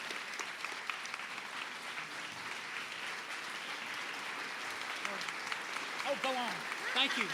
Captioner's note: applause